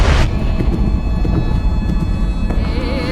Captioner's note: rhythmic beating